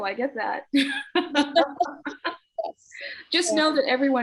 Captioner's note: both laughing